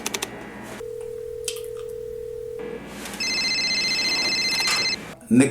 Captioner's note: phone ringing